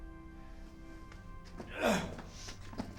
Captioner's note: grunts